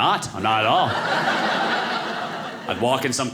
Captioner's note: audience laughing